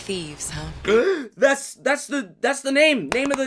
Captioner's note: gasps